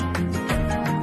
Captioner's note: laughs